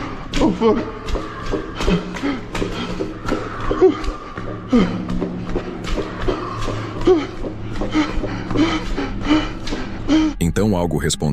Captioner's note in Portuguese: suspirando; ofegante